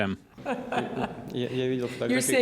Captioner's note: laughs